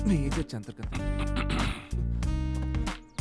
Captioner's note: Clears throat